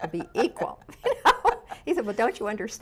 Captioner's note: laughs